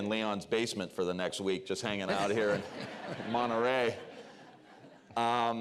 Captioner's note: laughter